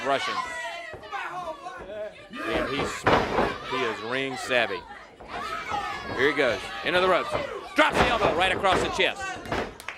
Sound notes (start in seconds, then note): 4.5 crowd chatter